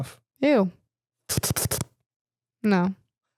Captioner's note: slurps